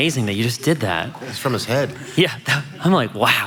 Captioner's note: laughs